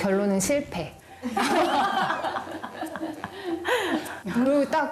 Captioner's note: laughs